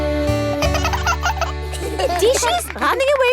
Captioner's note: both laugh